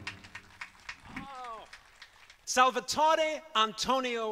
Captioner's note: applause